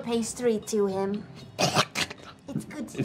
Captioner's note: sounds of disgust